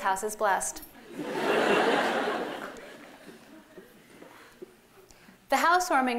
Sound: laughter

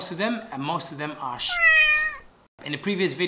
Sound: cat meow

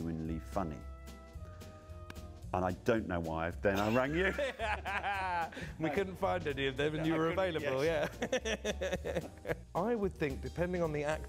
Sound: laughs

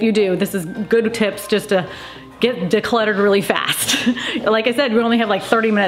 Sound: laughs

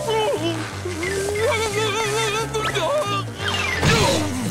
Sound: groaning; whimpering

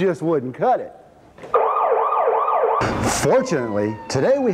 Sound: siren wailing

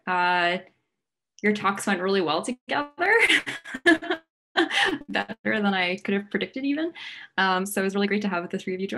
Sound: laugh

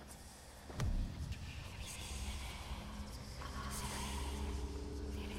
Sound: creepy whispering

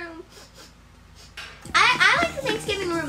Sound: sniffles

